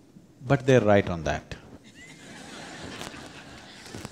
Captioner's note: laughter